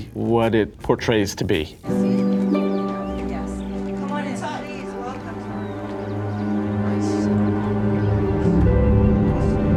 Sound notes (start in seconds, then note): 1.7 melancholy music; 2.0 people chattering; 6.5 suspenseful music